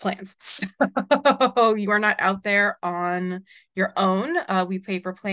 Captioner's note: chuckles